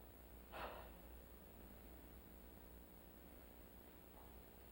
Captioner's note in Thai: เสียงถอนหายใจ